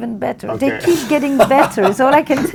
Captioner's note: laughs